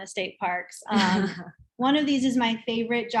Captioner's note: laughs